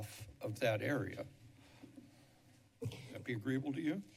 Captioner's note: pause